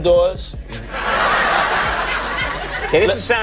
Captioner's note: laughing